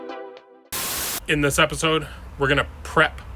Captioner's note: TV hissing